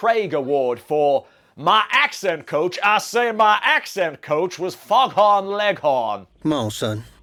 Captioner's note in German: Schrecklicher Südstaatenakzent